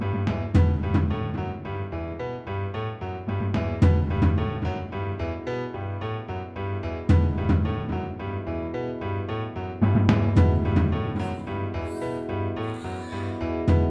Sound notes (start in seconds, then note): 11.1 distant baby crying